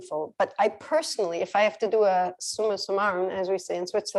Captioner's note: non-english speech